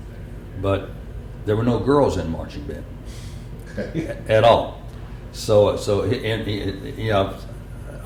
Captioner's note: laughter